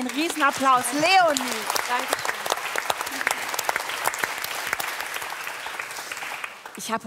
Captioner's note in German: Applaus